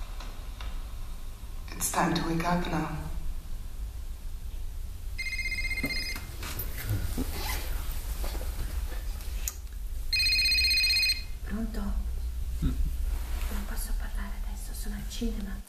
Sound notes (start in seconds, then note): 5.2 cell phone ringing; 7.2 zipper zips; 11.0 non-english speech